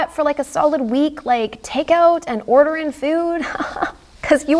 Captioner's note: laughs